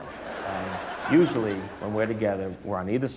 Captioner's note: audience laughs